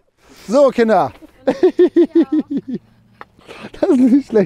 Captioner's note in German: Gelächter